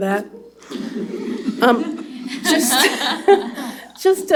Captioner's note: laughter